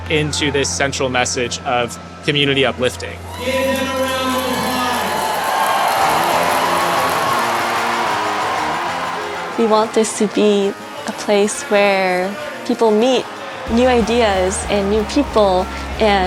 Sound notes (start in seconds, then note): 3.5 faintly speaks; 5.4 crowd cheers